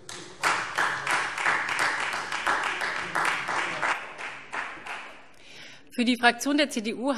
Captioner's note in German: Beifall Freie Demokraten